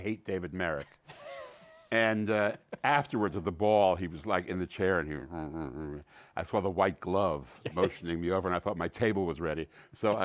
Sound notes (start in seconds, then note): 1.0 laughs; 5.2 grumbling; 9.7 laughs